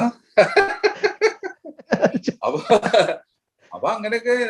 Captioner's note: both Laughs